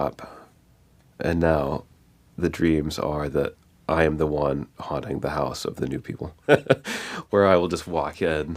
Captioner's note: laughs